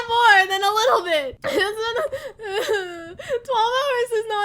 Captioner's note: crying